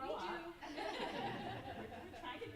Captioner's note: group laughing; group members murmuring